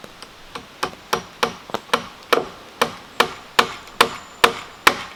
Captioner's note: hammering